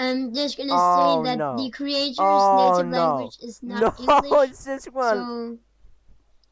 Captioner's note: laughter